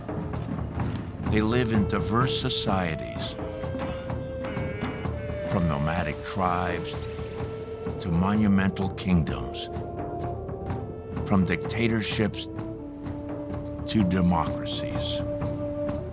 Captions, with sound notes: They live in diverse societies... (chanting) ...from nomadic tribes to monumental kingdoms, from dictatorships to democracies.